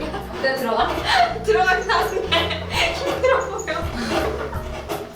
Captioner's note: haha